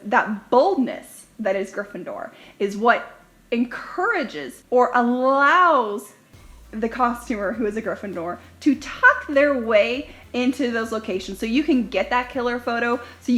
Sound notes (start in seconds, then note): none